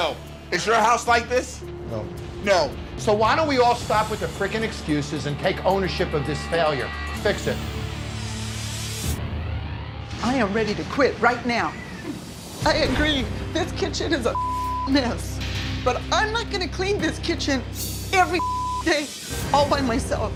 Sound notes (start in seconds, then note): 8.1 suspenseful music; 14.3 beep; 18.3 beep